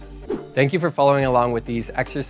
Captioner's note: wooshing